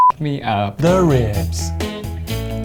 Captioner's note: beep